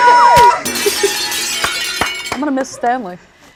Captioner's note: screams; glass breaking